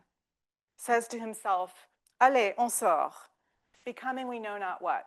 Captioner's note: speaking French